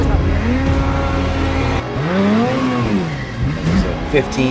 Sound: group yelling; engine revving

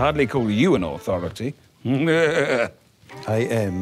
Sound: laughs

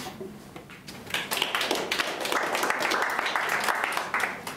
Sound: clapping

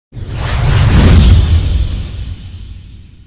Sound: whoosh sound

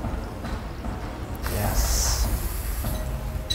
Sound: sizzle

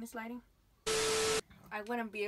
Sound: TV static

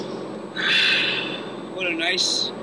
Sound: movie mobile engine whirs slower; sighing

